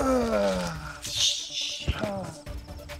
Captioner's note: Kohli grunts